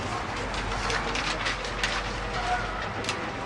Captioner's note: crowd noise